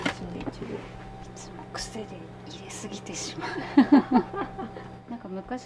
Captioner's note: laughs